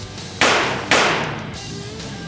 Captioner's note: gun shots